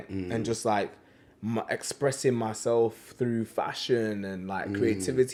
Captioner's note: none